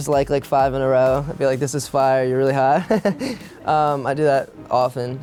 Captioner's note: laughs